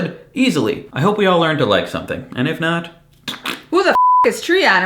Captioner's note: fart noises